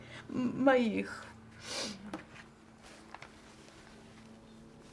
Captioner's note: pause 7 seconds